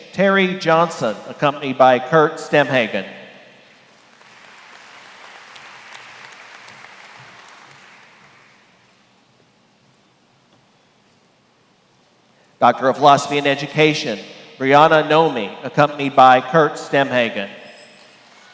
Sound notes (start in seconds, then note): 3.8 applause